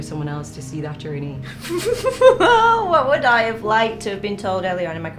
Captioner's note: laughter